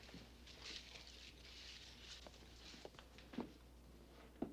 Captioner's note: papers crinkling